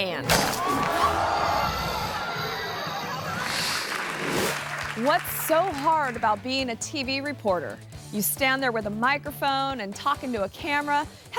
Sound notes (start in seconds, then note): 0.3 crocodile snaps; 1.0 onlookers gasp; 3.2 screen swooshes; 3.3 crowd applauds